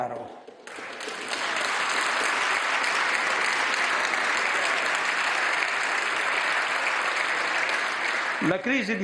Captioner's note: maxi roar of applause